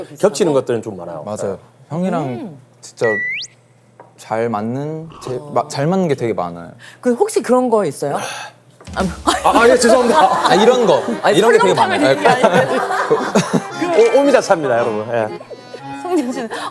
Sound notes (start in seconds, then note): 5.0 slurp; 9.5 Uncle sound effect strikes again; 16.5 hahahaha